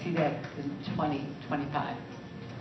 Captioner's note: applause